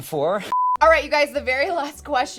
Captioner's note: beep